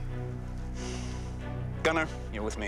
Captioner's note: sighs deeply